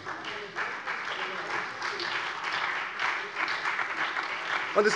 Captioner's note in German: Beifall SPD und vereinzelt BÜNDNIS 90/DIE GRÜNEN